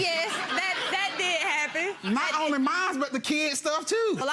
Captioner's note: audience laughs